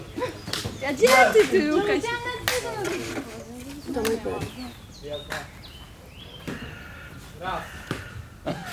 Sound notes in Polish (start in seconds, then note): 1.0 okrzyki po łemkowsku